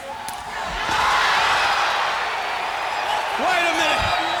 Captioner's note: crowd cheering